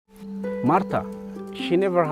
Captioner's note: voiceover